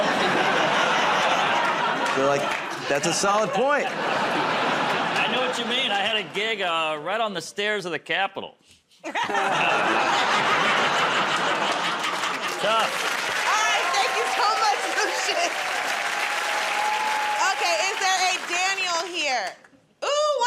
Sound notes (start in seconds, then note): 0.0 laughter; 9.0 laughter, groaning